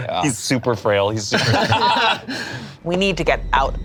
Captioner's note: group laughs